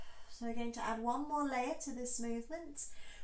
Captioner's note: exhale